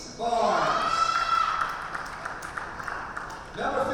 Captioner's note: spectators cheer and applaud